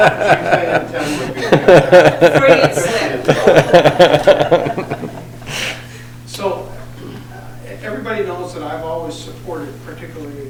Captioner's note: laughter